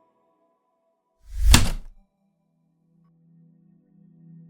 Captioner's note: heavy typewriter keystroke